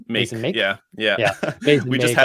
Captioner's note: laughs